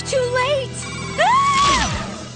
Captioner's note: screams